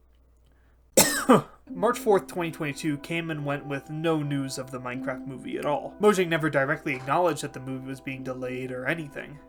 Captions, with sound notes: [cough] March 4th, 2022 came and went with no news of the Minecraft movie at all. Mojang never directly acknowledged that the movie was being delayed or anything.